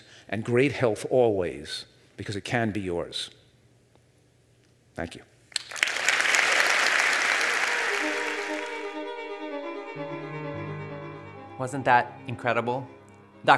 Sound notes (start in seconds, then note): 6.0 audience laughs; 7.1 fast-paced classical music